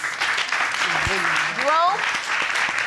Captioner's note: audience applauding